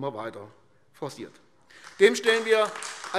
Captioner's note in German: Beifall AfD